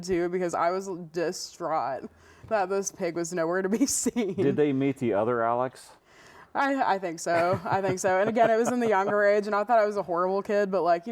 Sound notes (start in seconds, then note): 7.3 chuckling